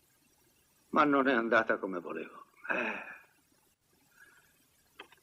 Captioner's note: sighs